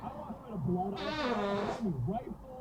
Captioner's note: squeezing out a fart